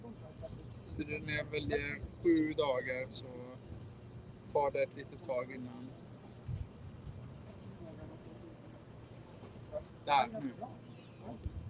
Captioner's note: speaking Swedish